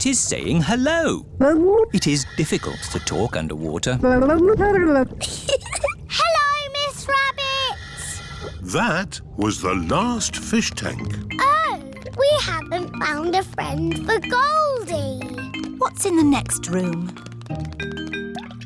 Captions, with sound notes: Miss Rabbit is saying hello. It is difficult to talk underwater. -(GURGLES) -(GIGGLES) Hello, Miss Rabbit! That was the last fish tank. Oh. We haven't found a friend for Goldie. What's in the next room?